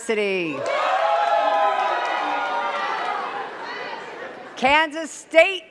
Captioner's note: cheers and claps